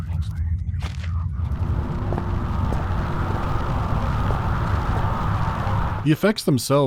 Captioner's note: haunting, distorted static